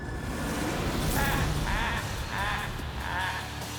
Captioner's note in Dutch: joker maniaal lachend